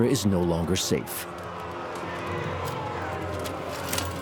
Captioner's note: crowd shouting